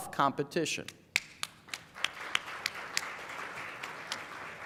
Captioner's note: clapping